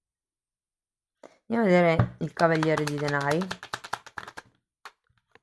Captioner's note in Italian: Applauso